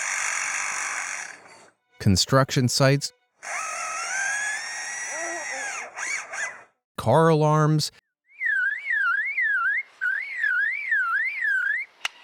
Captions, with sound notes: Construction sites. (mimics machines whirring) Car alarms. (mimics car alarm)